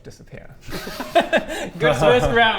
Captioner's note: unsympathetic laughter